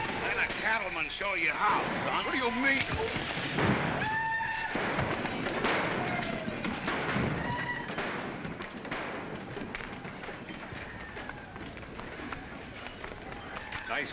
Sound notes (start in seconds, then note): 4.6 whack; 7.1 thump; 7.8 sounds of chaos & destruction